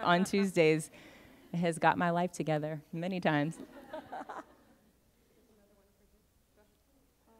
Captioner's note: laughter; laughter